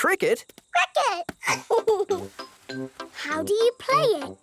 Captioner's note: giggles